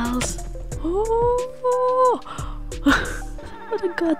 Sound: happy noises

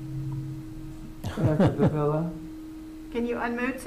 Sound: member laughing

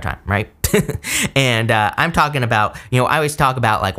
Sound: laughs

